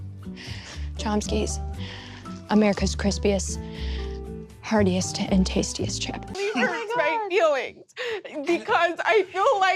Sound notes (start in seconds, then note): 6.4 sobbing